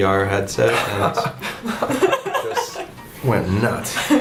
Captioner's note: laughing